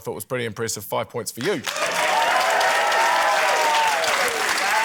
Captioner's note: cheering, applause